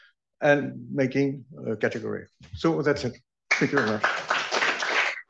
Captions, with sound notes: and making a category. So that's it. [APPLAUSE] Than you very much.